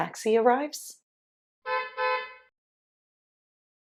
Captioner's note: car honking